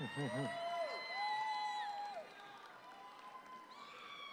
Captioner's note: audience applauds